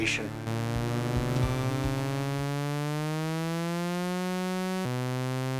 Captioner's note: high pitched engine noise